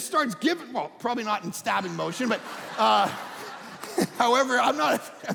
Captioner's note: audience laughing